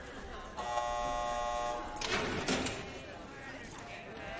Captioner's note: door buzzer & door opening